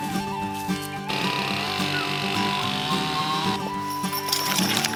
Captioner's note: chain saw grinds loudly